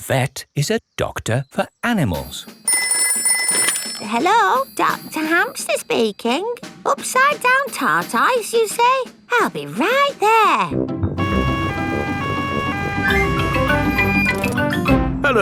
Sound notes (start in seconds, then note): 2.7 ringing; 11.2 siren wailing